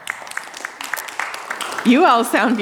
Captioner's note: audience applauding